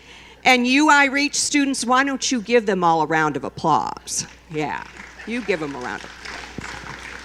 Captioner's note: applause